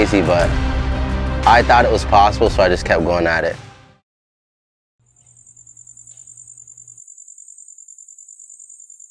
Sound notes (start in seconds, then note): 5.0 crickets chirping